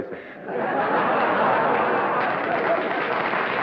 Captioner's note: laughter; applause